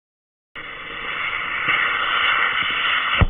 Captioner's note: cannonball whistling